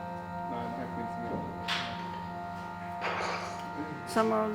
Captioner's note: indistinct conversation